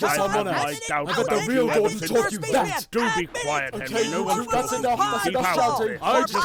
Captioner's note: they all shout at once